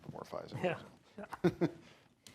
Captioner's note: laughs